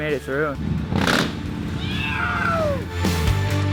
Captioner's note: rumble of motor, "yeowwwww"